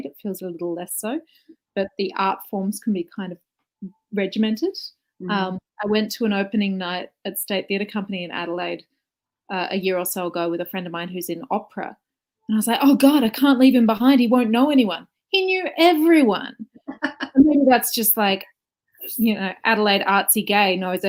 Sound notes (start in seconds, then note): 16.7 laughs